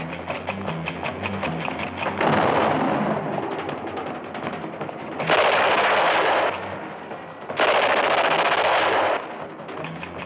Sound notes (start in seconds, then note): 2.2 gunshot; 5.1 gunshots